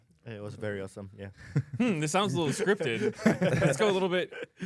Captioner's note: laughs